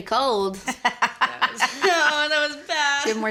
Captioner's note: laughter